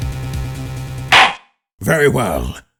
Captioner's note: gavel slams!